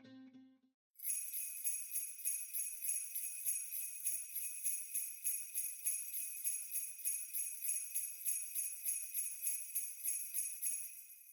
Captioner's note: sleigh bells